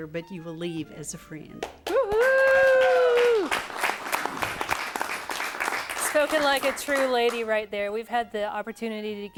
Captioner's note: �cheering and applause�